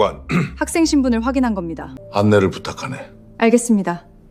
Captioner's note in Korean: 목을 가다듬음